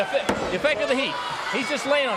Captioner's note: crowd chatter